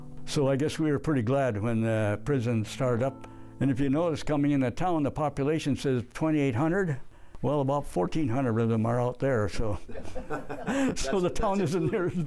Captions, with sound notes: So I guess we were pretty glad when the prison started up. And if you noticed, coming into town, the population says 2,800? Well, about 1,400 of them are out there. So-- [laughter] So the town isn't near as big.